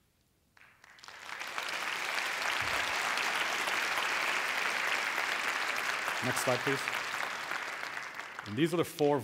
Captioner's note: applause